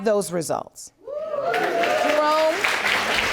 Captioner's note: audience cheering and applauding